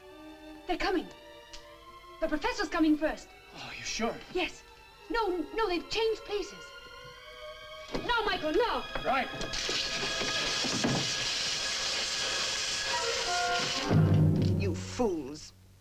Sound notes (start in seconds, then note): 9.5 electricity crackles; 12.4 dramatic music